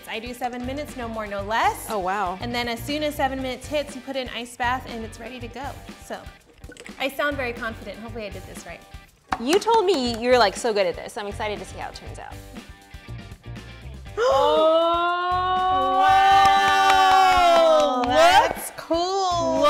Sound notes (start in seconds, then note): 14.2 gasps; 16.0 clapping